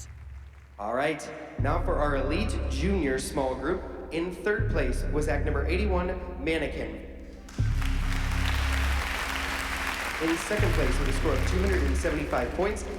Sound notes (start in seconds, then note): 7.4 applause